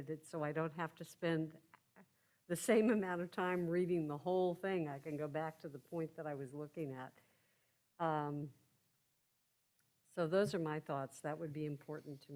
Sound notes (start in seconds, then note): none